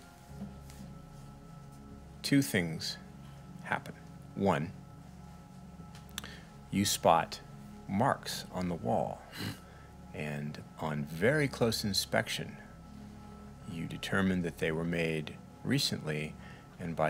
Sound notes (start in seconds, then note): none